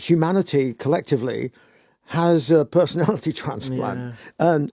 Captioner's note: laughs